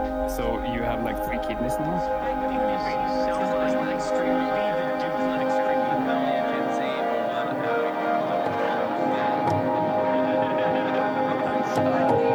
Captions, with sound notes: - So you have like three kidneys now? [gentle music] [group chatters and laughs]